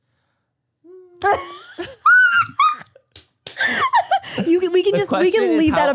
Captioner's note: laughs